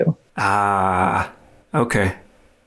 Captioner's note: exclaims